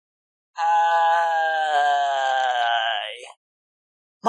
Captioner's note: grunt in frustration